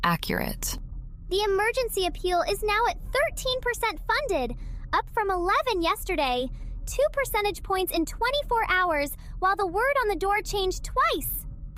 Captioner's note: breath